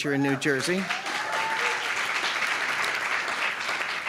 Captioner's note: applause